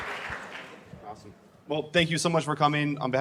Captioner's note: cheers and applause